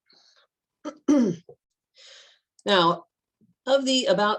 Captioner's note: clears throat